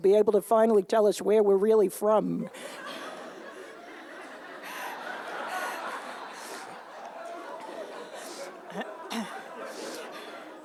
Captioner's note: laughter